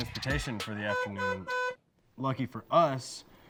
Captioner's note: horn honking